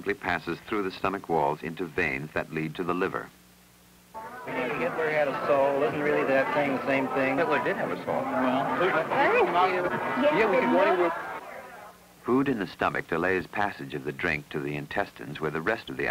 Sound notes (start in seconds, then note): 4.7 chatter